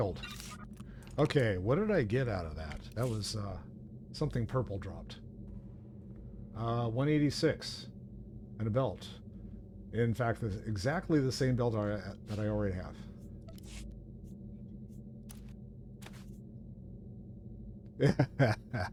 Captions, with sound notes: Okay, what did I get out of that? That was something purple dropped. 186 and a belt. In fact, exactly the same belt that I already have. (gunshots) (laughs)